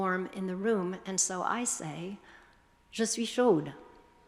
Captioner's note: speaking foreign language